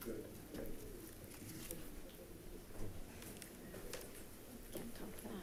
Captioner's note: people chattering